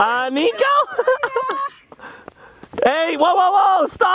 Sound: laughs

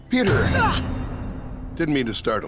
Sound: exclaims

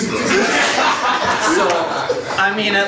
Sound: audience laughs

